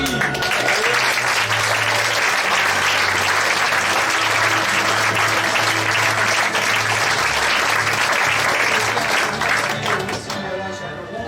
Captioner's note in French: applaudissements